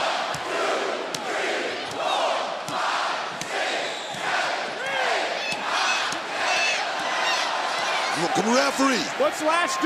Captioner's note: crowd counting